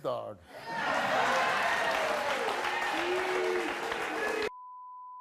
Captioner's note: audience claps and cheers